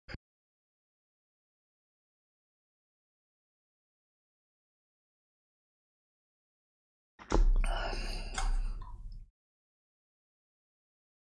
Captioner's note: silence